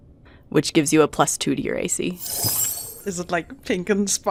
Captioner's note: shining whoosh